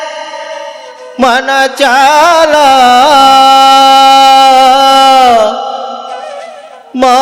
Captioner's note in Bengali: চিৎকার করা